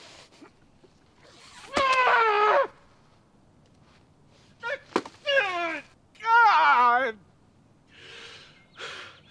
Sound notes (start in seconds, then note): 1.5 yelling; 4.9 yelling